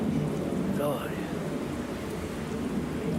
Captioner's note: noise of aeroplanes